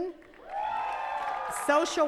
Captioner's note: attendees cheering and clapping